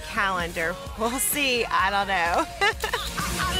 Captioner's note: laughs